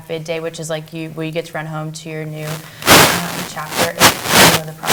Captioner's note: audio static